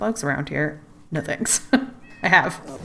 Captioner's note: laughs